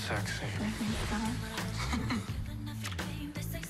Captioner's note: chuckles